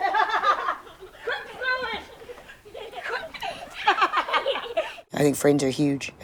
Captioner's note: laughter